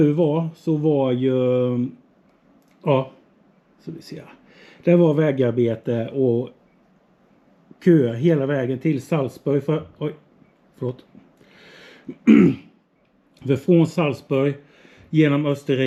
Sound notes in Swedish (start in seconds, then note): 12.0 harklar sig